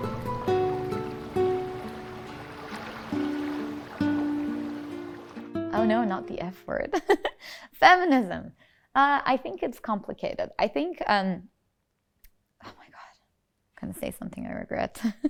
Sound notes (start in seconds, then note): 0.0 gentle music; 0.1 water splashing; 6.9 giggles